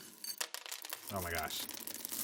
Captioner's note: beans clatter